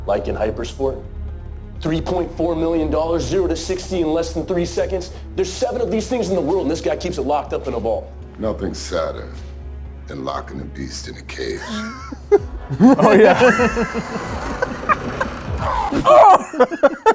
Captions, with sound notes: - Like in hyper sport, $3.4 million zero to 60 in less than three seconds. There's seven of these things in the world and this guy keeps it locked up in a ball. - Nothing sadder than locking a beast in a cage. (both laugh)